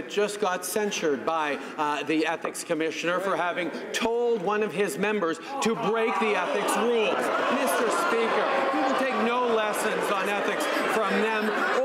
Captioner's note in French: voix de l'interprte